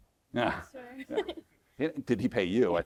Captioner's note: chuckles